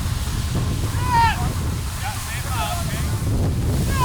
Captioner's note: shouting